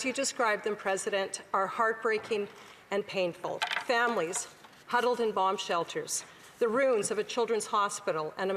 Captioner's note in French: voix de l'interprète